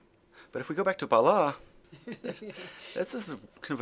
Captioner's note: laughs